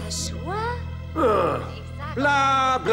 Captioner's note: grumble